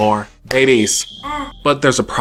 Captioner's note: baby coos